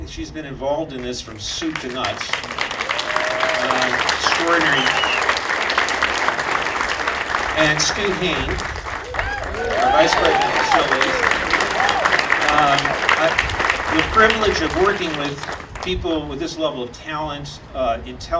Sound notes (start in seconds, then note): 2.7 audience applauding; 7.4 audience applauding and cheering